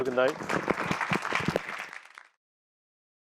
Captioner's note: applause